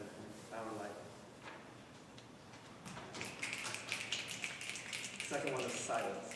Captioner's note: audience snapping